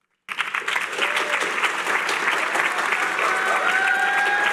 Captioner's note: applause